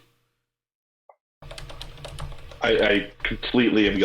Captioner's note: keyboard keys clanking